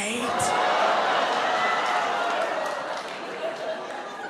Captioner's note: audience laughs